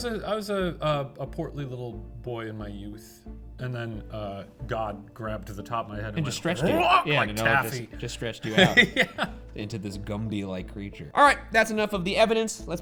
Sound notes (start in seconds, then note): 7.4 grunts; 8.4 laughs